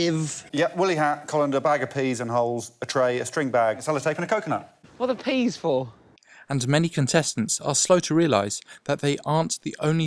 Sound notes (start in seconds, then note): none